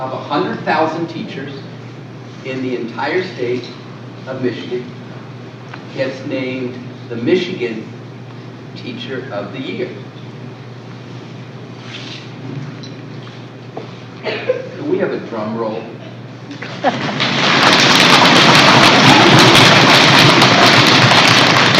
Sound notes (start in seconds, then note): 16.6 applause